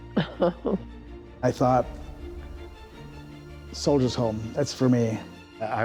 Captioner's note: chuckling